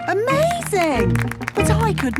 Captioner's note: clapping